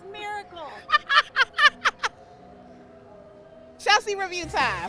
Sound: laughing

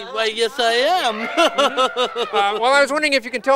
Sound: laughs

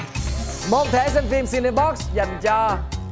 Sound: none

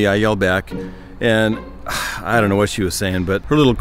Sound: sighs

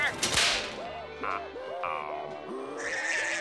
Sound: screaming

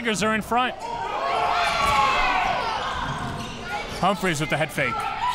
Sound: crowd cheering

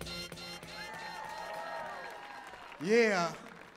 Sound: audience clapping and cheering

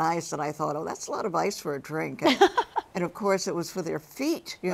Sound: Misty laughs

